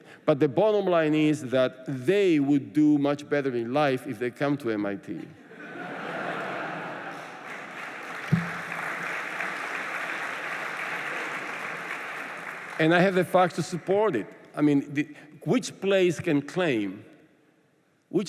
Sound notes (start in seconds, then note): 5.3 laughter; 7.2 applause